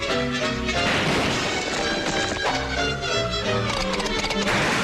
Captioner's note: debris clattering; gun bangs; hooves thudding